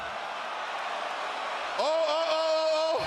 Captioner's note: crowd cheers